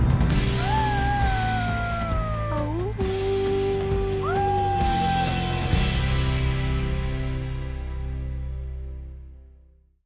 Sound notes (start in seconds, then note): 0.6 howling